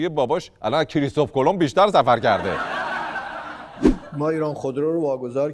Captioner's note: laughter